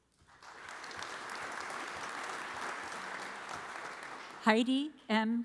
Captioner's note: audience applauds